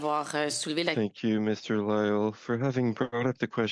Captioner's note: speaking French